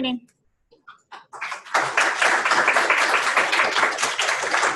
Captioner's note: applause